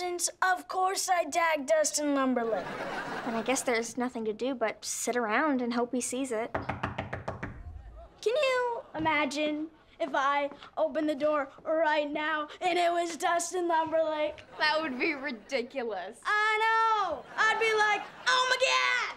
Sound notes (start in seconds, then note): 6.5 knocking on door